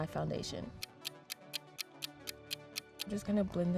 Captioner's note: clock ticking